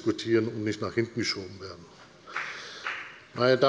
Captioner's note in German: Beifall des Abg